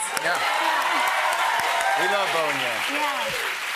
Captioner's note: cheers and applause